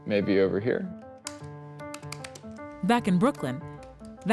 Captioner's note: keyboard clacking